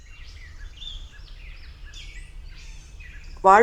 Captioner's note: sounds of wind & birds chirping